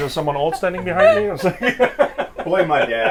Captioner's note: laughs